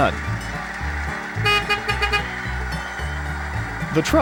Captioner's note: honk honk